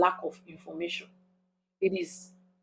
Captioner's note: paause